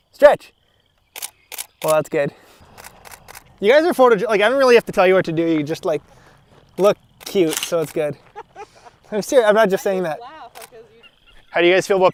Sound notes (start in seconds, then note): 2.6 click, click, click; 7.8 everyone laughs